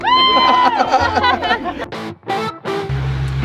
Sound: group cheering

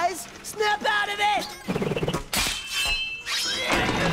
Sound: clattering

